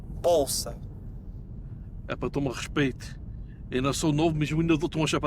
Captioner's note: group speaking in foreign language